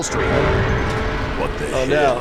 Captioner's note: dam rumbling